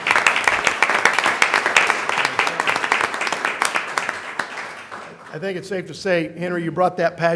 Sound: applause

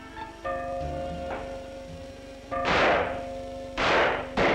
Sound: bell ringing; gunshots

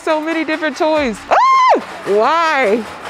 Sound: screams

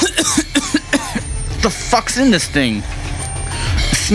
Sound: inhales and coughs

